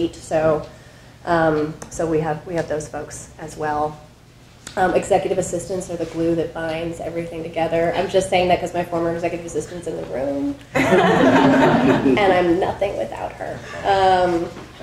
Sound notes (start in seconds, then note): 10.7 audience laughing